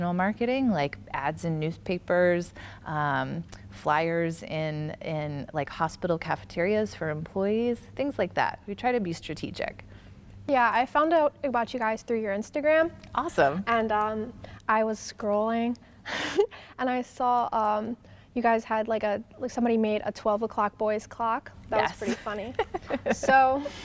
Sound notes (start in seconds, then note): 16.0 chuckles; 22.0 laughing